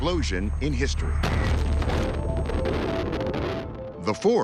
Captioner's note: explosion booming